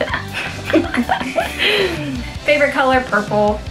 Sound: both laugh

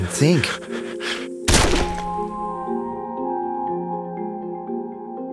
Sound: gunshot sound

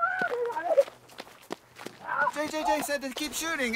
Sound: screaming

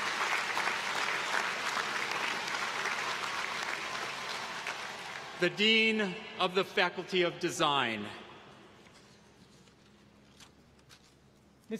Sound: applause

